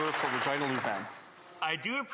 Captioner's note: some Applause